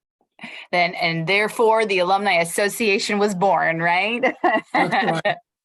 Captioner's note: laughter